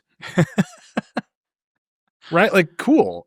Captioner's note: laughing